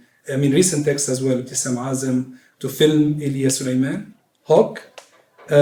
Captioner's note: non-english speech